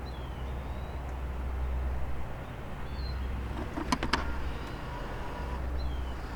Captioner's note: sound of electric wheel chair